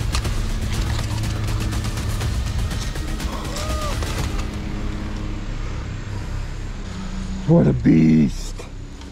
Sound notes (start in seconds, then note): 3.5 wooing